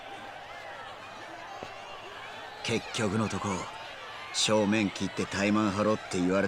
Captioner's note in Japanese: 大歓声